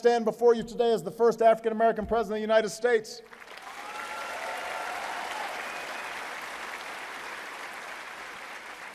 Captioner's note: applause